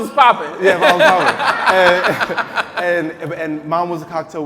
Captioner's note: laughing